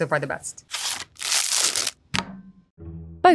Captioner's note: plastic rustling; patties thudding